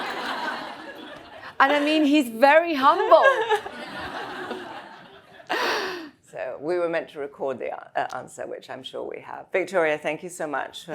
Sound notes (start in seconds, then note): 3.0 all laugh